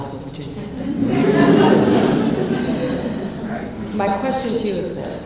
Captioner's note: laughs